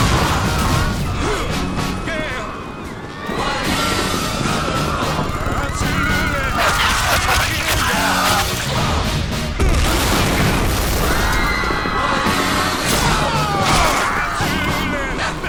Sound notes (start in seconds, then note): 5.3 gunfire; 9.6 people screaming